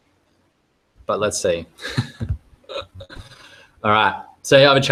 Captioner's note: chuckling